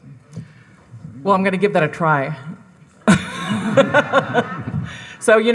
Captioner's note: laughs